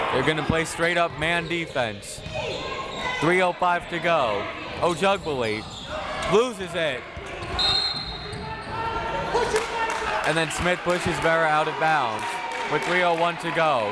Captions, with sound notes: They're gonna play straight up man defense. 3:05 to go. Ojugbele loses it. (whistle) And then Smith pushes Vera out of bounds with 3:01 to go.